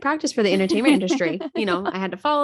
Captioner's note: laughing